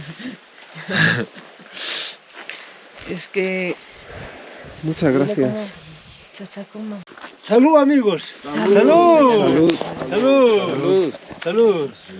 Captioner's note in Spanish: resoplido